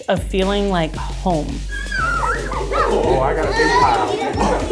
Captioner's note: kids laughing